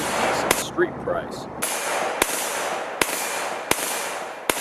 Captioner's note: gun fires